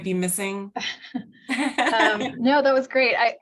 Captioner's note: laughter